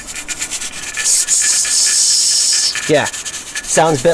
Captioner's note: mimics chattering noises